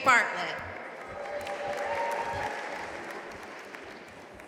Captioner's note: audience applauding